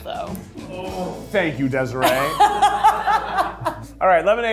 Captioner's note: laughs